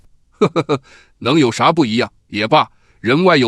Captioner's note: chuckles